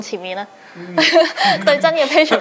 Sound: laugh

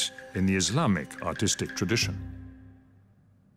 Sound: speaks French

